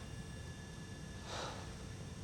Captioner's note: sighs